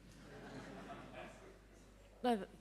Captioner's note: audience laughing